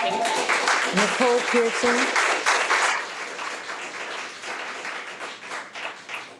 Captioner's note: audience clapping